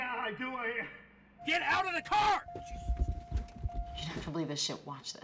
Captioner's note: voiceover